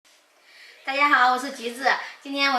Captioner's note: Mandarin